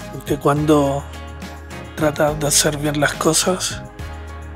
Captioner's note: narrator speaks Spanish